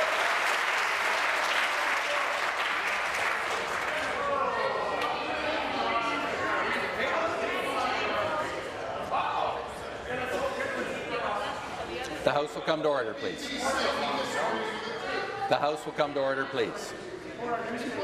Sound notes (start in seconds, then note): 3.5 applause